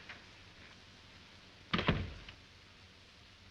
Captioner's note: door closes